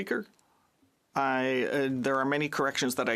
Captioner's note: speaking in French